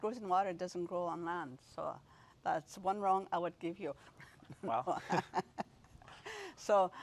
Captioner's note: rires